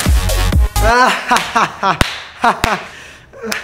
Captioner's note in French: rit et applaudit